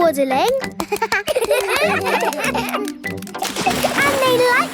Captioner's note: children laugh